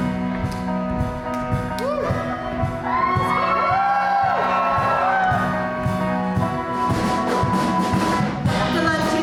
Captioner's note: audience cheers